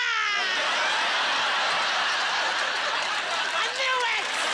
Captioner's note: laughter